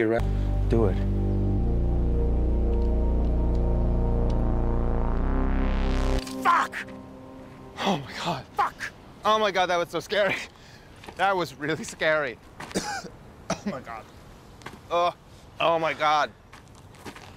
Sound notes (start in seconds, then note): 7.3 gasping; 12.7 coughing